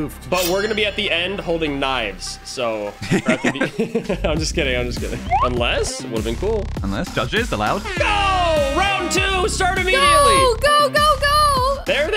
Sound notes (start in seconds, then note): 3.0 laughing; 5.7 slide whistle; 8.7 air horn blares